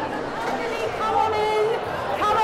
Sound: chatter

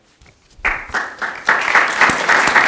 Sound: applause

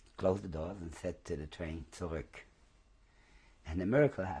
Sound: german

